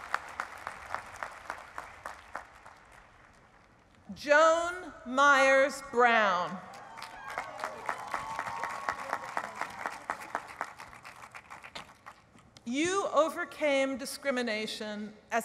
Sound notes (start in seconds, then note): 6.7 applause